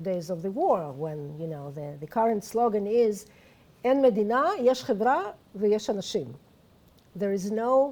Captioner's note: non-english speech